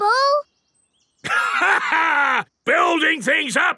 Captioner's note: laughs